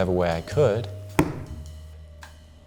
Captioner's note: book slams